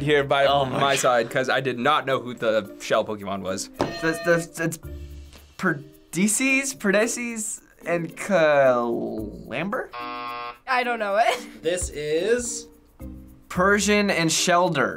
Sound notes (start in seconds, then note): 3.8 stammering; 9.9 buzzer